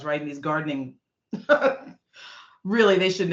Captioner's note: laughing